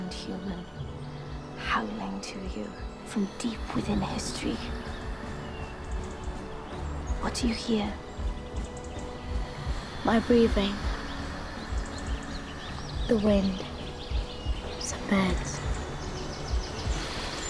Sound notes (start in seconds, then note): 9.2 heart beats; 12.2 birds chirp